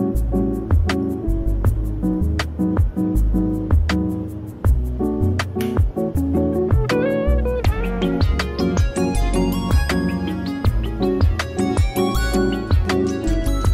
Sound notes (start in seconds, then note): 5.5 switch flicking; 7.2 soothing music continues